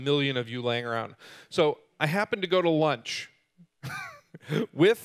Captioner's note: laughing